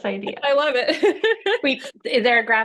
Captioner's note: chuckles